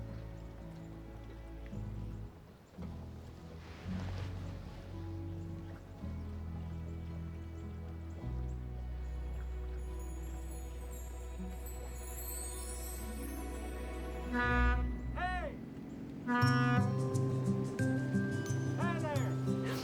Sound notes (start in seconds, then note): 14.2 horn honks